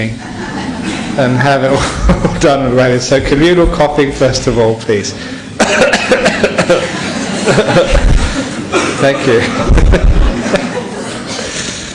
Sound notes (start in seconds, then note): 0.1 laughter; 5.6 many coughs and laughter; 10.1 more laughter